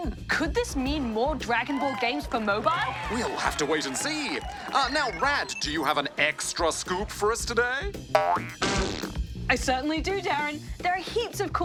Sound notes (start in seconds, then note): 8.1 boing ploop